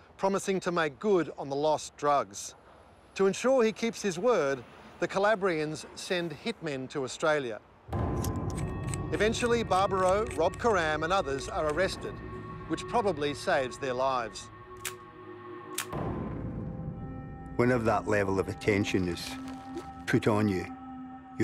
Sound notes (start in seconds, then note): 7.9 suspenseful music; 15.7 gun clicking